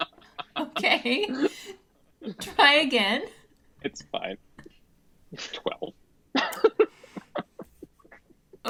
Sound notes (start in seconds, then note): 0.0 laughs